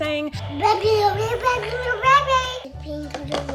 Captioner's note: babbles